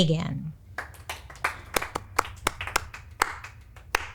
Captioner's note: claps